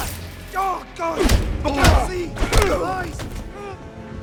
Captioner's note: groaning and screaming